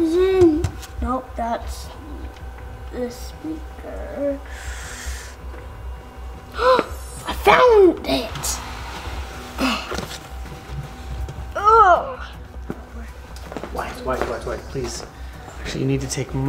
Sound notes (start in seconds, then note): 6.4 gasping; 10.1 groaning